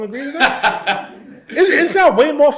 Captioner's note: laughs